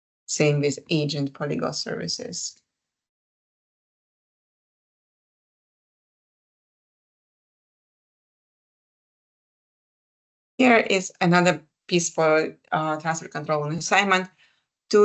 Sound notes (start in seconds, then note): 2.6 silence